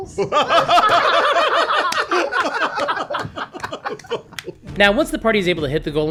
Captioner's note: laughter